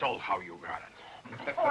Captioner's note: laughs